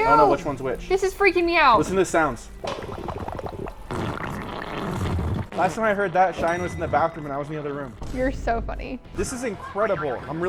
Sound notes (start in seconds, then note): 2.2 mud slurping